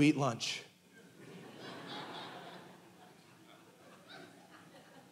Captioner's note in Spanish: congregación riendo